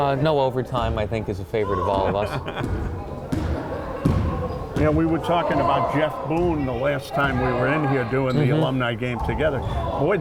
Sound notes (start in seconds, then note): 2.1 laughing